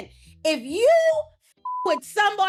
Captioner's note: beep